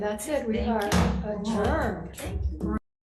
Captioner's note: gavel bangs